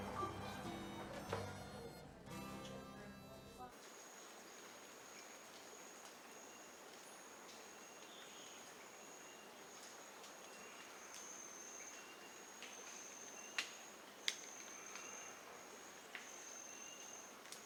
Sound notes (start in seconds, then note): 4.2 birds chirping; 4.2 water running